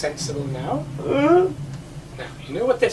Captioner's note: monster grunts